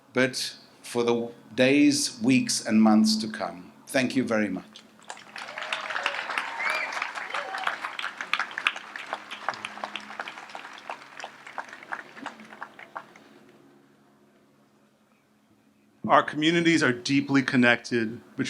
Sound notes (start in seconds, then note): 5.0 audience applauds